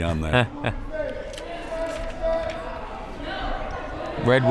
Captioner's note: laughs